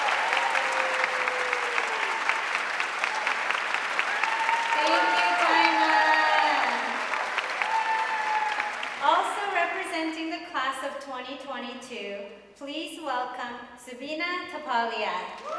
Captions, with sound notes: - Thank you, Tayna. (audience cheering and applauding) - Also representing the class of 2022, please welcome Subina Thapaliya.